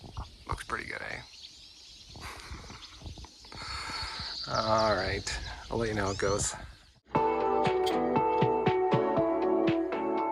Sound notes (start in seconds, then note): 2.2 chuckles; 7.1 bright upbeat music